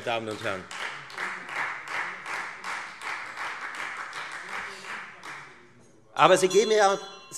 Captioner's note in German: Beifall Freie Demokraten - Unruhe - Glockenzeichen